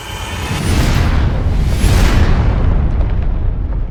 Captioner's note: explosions